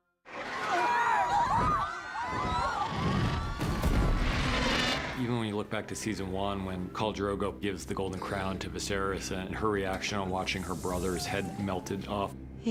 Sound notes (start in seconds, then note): 0.3 crowd panicking; 3.8 drogon roars